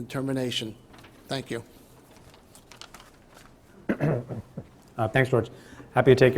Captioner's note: Preet: clears throat